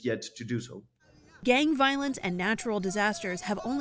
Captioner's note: voice-over